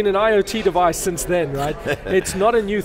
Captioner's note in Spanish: Risas